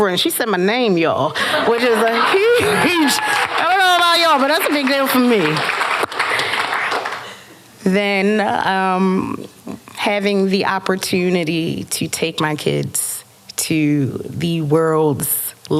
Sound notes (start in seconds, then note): 2.8 applause